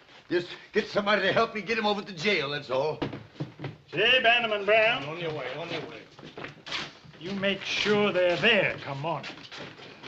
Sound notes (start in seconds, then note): none